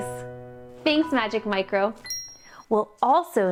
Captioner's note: wink sound